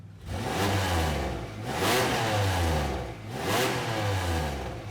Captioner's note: engine revving